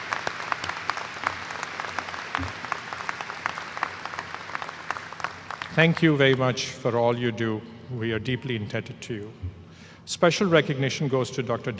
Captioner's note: applause